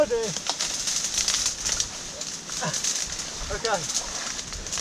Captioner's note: reeds rustling